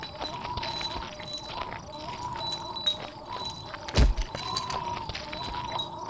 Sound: footsteps and chains

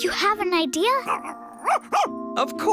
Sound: barks

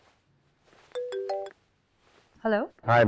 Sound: phone ringing

